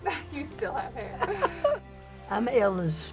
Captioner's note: laughs